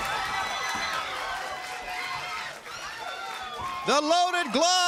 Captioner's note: crowd cheering